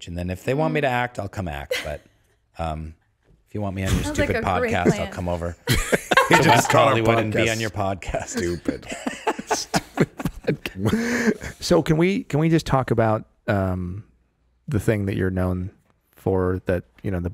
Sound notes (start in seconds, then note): 8.1 Justin laughing; 8.3 laughing